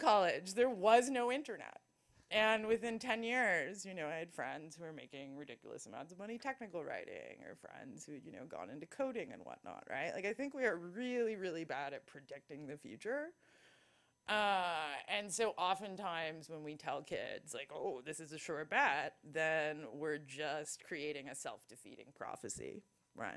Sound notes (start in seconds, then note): none